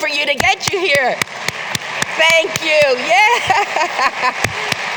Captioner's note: applause